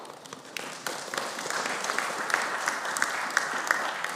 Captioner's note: audience applauding